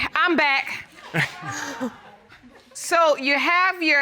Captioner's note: laughs